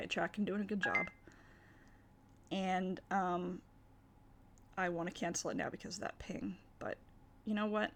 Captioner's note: computer alert sound